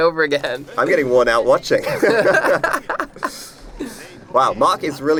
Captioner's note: laughter